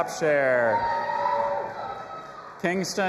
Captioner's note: audience applauding and cheering